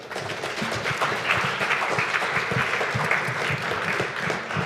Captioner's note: audience applauding